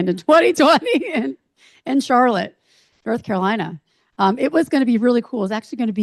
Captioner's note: chuckles